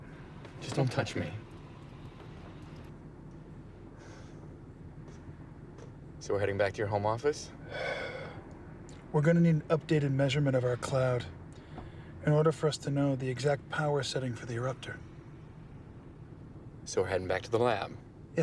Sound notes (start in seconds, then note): 7.6 exhales